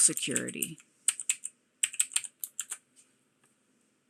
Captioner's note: keyboard typing